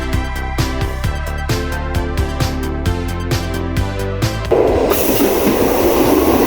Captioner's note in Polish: Aplauz